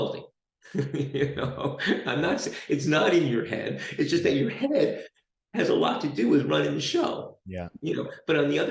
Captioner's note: chuckles